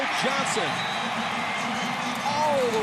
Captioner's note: cheering; pa announcement